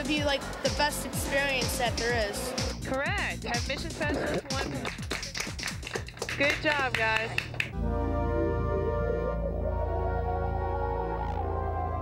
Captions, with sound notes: I THINK THAT IT'D BE THE BEST EXPERIENCE THAT THERE IS. CORRECT, MISSION... [ LIGHT APPLAUSE ] GOOD JOB, GUYS.